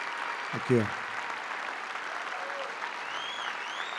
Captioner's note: applause